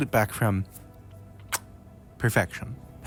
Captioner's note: chef’s kiss